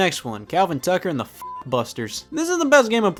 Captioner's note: beep